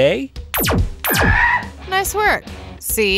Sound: gun shots firing

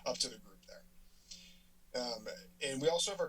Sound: silence

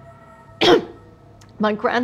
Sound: finger snapping; Catherine's throat clearing

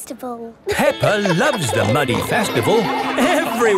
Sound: laughing

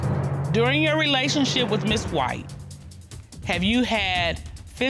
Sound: reading

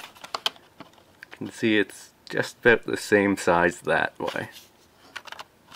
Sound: rustling

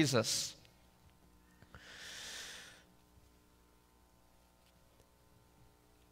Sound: inhales deeply

